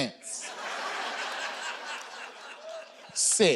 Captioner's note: audience laughing